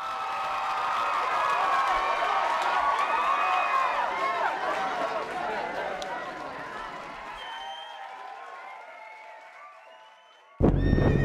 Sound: crowd cheering

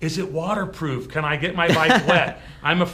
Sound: laughs

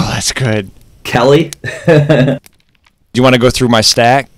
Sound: laughter

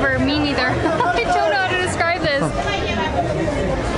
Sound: laughter

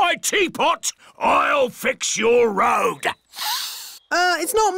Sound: sniffs

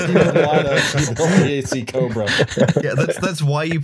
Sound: laughter

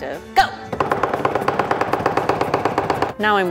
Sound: cutting sounds

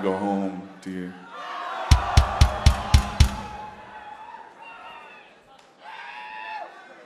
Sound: audience cheering; kick drum thudding

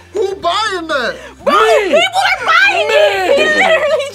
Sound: laughs

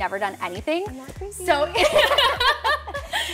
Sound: laughs

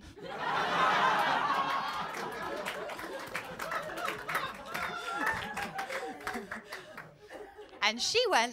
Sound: laughter & applause

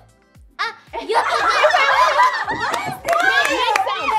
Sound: group giggles

